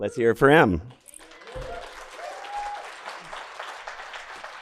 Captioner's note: audience clapping